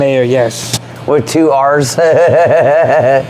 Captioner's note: laughs